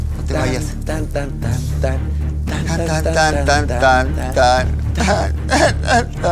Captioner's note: humming to the tune